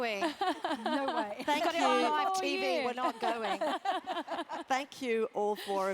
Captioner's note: laugh